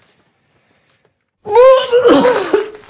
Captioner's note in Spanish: vomita